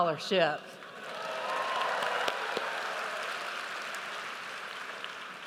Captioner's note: audience cheers